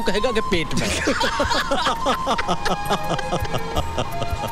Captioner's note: Laughs